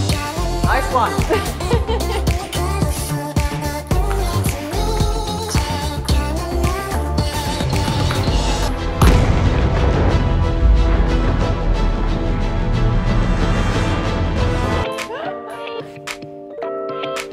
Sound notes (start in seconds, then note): 1.2 chuckles; 7.0 dramatic music